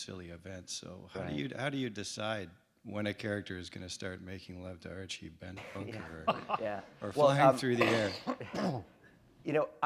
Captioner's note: chuckle